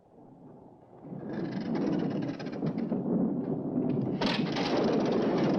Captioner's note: windmill creaking